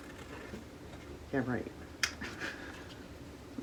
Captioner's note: laughs